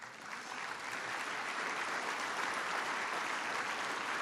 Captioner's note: applause